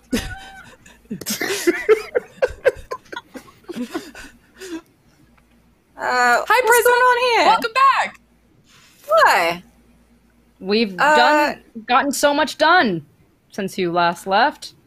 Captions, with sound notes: (laughing and mumbling in unison) - We've gotten so much done. Since you last left.